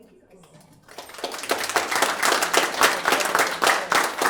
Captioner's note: applauding